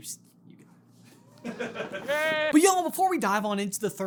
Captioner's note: chuckling